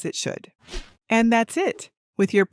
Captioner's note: screen wipe whooshing